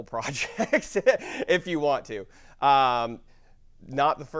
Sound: laugh

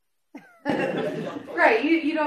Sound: laughter

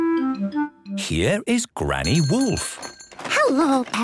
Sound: bell jingling

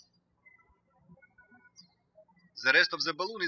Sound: birds chirping

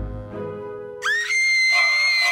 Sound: scream

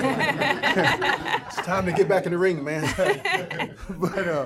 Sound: laughter

